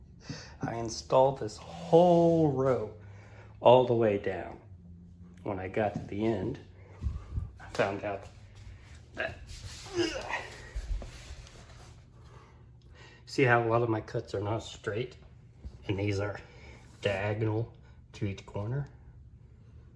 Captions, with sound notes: I installed this WHOLE row, all the way down, and when I got to the end, I found out, that, [ grunts whilst sitting ] See how a lot of my cuts are not straight, and these are, diagonal, to each corner.